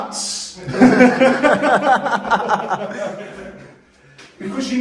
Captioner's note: laughter